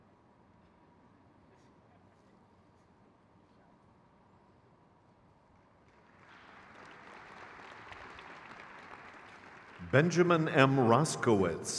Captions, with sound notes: Chelsea Renee Perkins. (crowd claps)